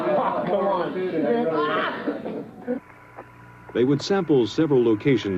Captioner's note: indistinct chatter